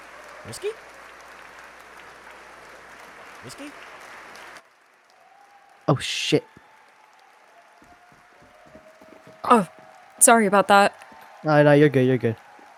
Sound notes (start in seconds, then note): 9.4 grunts